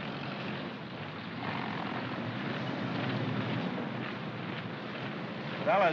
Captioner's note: vehicles rumbling & feet marching